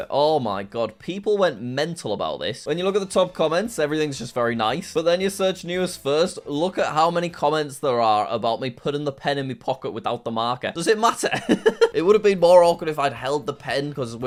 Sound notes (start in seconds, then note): 11.4 laughs